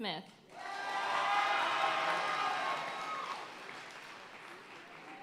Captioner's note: audience cheering and applauding